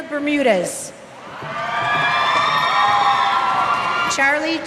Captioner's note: cheers